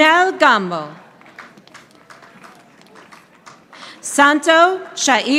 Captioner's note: audience applauding